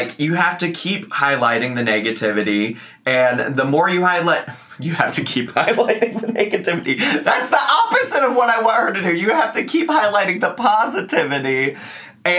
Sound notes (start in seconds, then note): 5.5 laughing